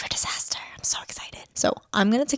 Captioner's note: whispering